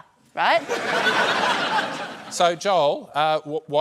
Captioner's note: laughter